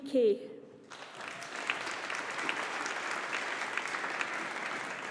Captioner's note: audience applauding